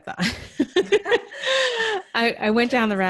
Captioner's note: laughing